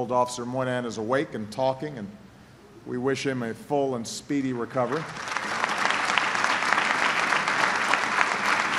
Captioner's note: applause